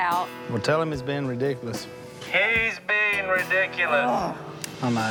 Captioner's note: annoyed grunt